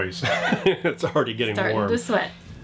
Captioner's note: laughs